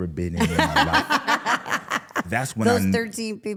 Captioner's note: laughing